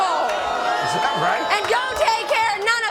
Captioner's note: audience boos